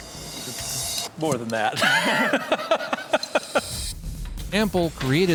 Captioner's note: chuckles